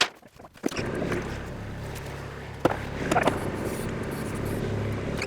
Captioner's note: engine rumbling